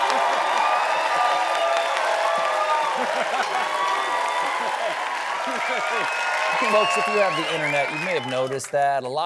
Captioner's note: cheering